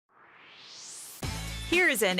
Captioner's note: swoosh